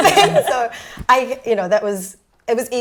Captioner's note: laughs